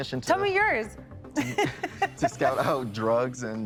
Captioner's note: laughing